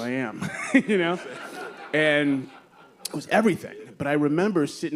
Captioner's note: laughter; laughs